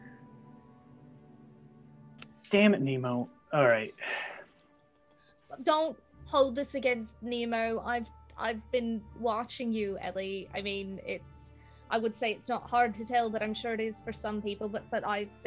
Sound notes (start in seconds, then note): 3.9 sighs